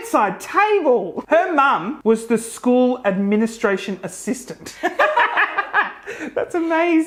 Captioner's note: laughs